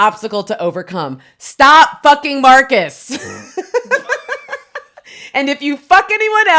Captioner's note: both laughing